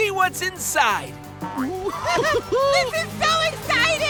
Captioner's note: giggling